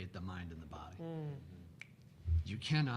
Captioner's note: snaps fingers